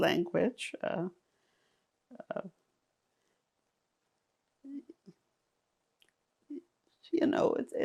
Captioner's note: pauses 6 seconds